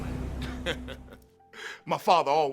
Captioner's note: chuckles